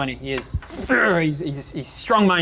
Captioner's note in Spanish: Se aclara la garganta